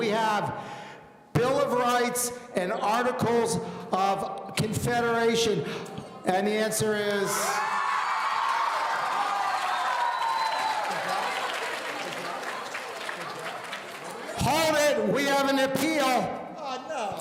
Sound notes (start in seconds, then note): 7.4 audience cheering